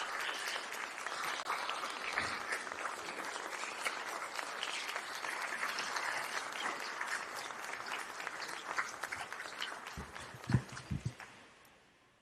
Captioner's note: applause